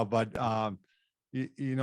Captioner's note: laughs